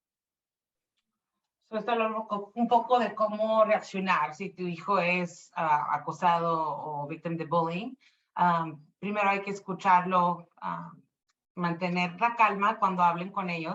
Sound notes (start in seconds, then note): 2.2 speaking Spanish